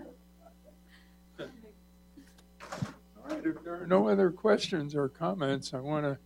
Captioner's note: laughter